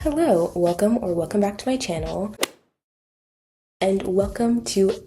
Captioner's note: golf hit sound effect